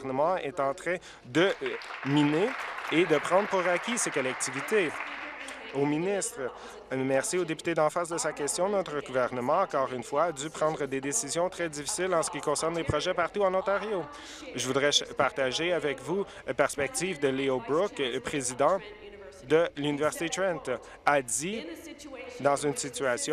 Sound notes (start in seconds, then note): 5.6 applause